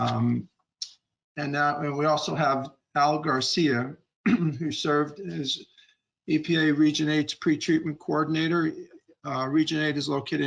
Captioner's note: clearing throat